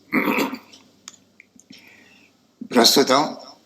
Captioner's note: throat clearing